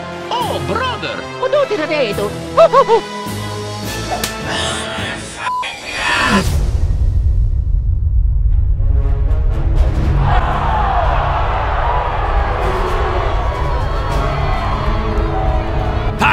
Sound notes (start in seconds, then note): 4.0 sighs; 5.4 some balloon inflating sound